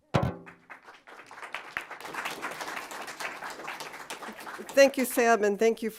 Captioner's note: audience applauding